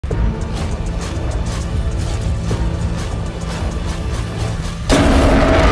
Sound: Godzilla Minus One's Atomic Breath charging up; intro music plays; Godzilla Minus One roars

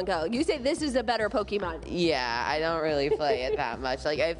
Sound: laughter

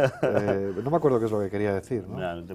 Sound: ríe

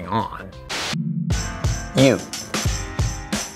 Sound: static hisses; instrumental hip hop music

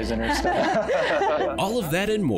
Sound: laughter

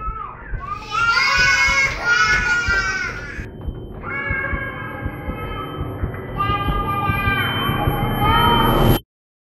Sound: baby crying

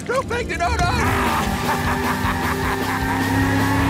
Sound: laughing

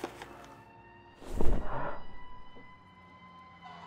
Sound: leather cape "swoosh" sound; masked heavy breathing sound

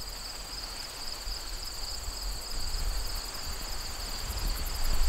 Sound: crickets chirping, wind lightly blowing

